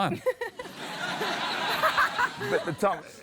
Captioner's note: laughter